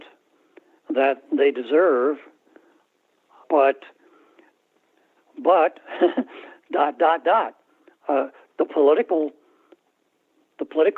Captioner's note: laughter